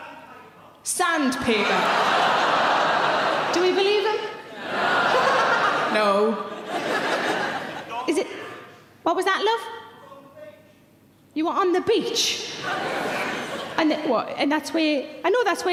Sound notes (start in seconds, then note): 1.5 audience laughing; 4.4 laughs; 12.5 audience laughing